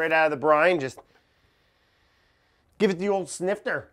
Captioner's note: deeply inhaling